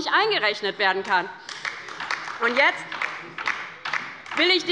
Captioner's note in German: Beifall bei der LINKEN